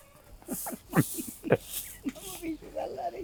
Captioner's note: laugh